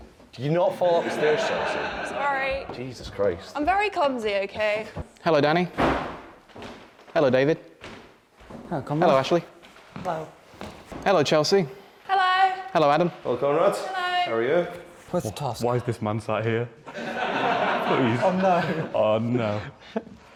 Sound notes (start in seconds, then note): 0.8 laughter; 16.8 laughter